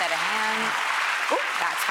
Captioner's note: audience applauds